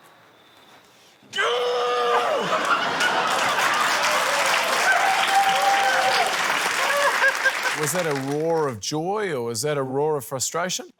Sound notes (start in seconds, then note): 1.3 yells loudly; 2.1 laughter, cheering, applause